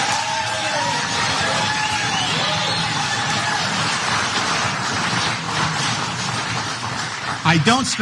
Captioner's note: applause